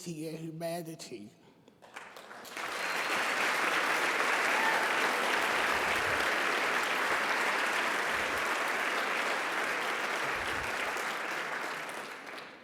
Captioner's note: applause and Cheers